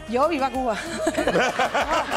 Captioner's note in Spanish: Risas